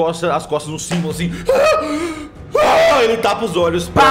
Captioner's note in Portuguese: desespero